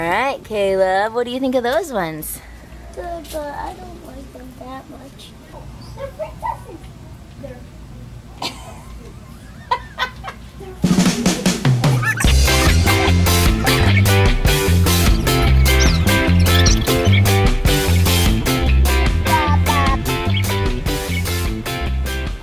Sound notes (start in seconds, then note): 8.4 laughing; 10.9 upbeat pop music